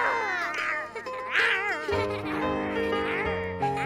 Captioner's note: gasping